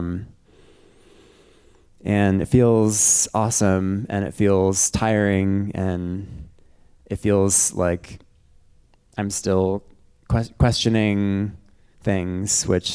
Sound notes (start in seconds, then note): none